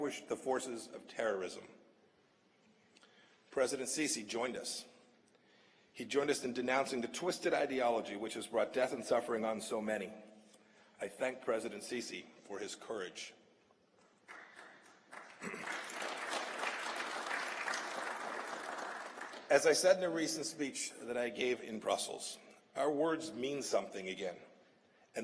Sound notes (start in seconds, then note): 16.3 applause